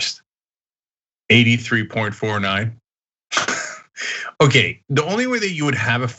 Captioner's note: laugh